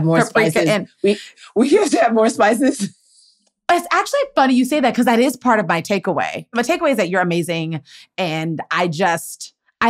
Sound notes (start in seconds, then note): 1.4 laughs